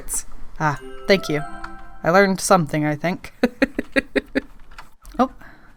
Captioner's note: laughs